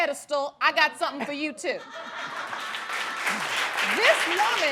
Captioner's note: laughing and applauding